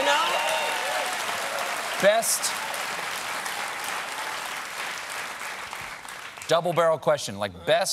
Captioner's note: applause